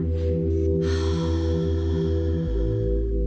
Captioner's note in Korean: 날숨